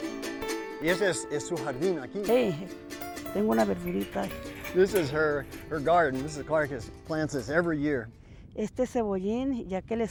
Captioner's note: spanish